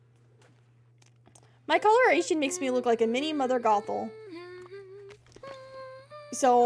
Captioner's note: Mirabel Humming